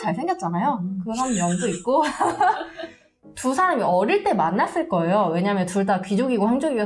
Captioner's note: laugh